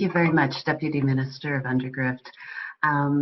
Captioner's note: speaking Akawaio Langauge